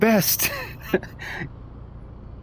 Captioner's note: laughing